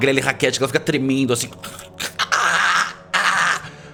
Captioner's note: aaaagh